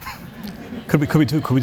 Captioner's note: audience Laughing